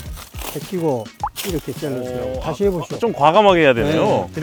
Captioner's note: snip